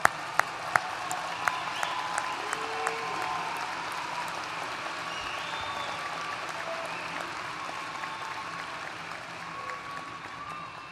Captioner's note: applause